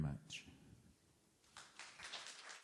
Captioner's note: applause